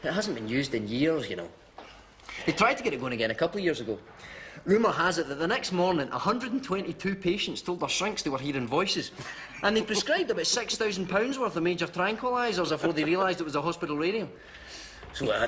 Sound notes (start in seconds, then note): 9.2 eddie laughs